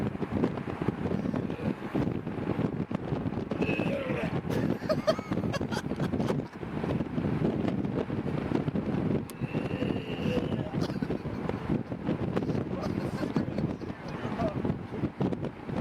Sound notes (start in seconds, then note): 0.8 wind whooshing; 4.4 pukes; 4.4 camera person laughs; 9.6 pukes; 10.4 wind whooshing